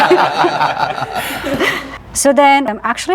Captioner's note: laughing